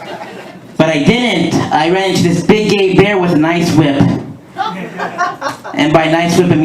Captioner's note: laughter; laughter